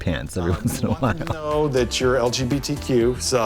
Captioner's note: Katya laughs